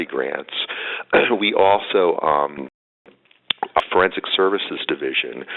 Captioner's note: audio dropping